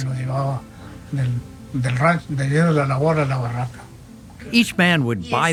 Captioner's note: speaking in foreign language